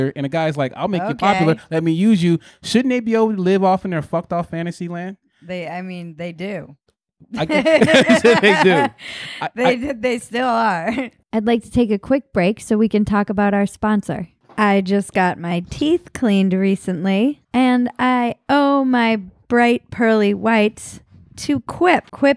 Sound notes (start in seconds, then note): 7.4 laughing